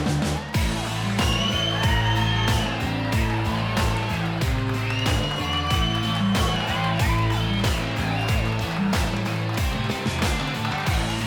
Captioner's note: audience boos; audience cheers